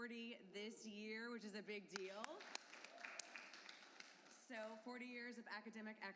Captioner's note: applause